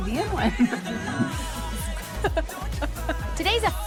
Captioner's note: laughing